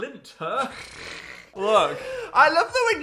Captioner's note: people laughing